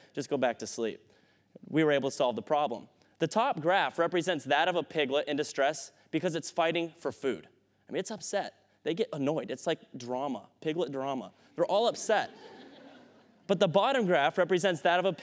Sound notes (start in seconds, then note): 11.9 laughter